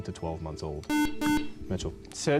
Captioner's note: buzzer